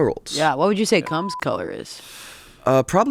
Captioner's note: beep